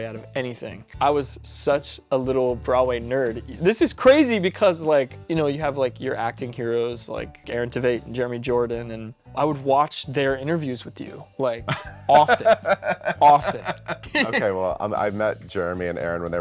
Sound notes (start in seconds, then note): 11.6 laughing; 11.7 laughs